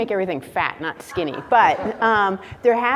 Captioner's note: laughs